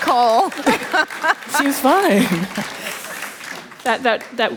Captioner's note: laughter